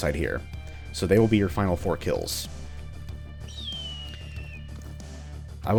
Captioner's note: hawk keens